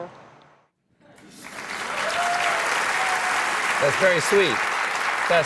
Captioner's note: applause